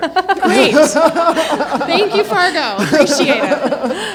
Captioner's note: everyone laughing